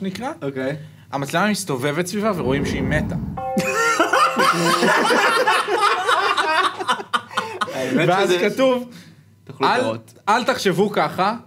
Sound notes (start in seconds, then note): 6.7 laughs